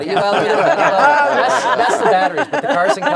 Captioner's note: laughter